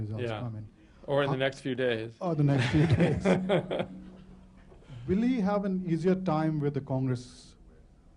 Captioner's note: laughter